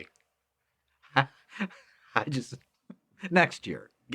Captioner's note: laughing